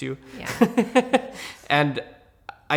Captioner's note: laughs